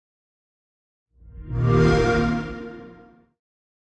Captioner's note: xbox sound